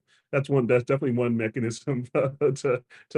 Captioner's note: laughs